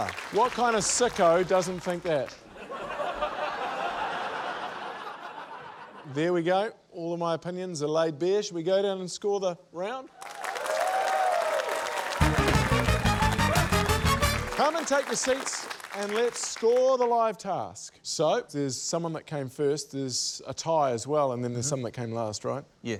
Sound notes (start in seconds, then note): 2.5 laughter; 12.2 musical flourish